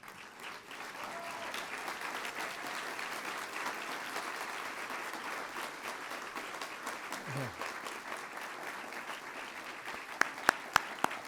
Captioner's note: applause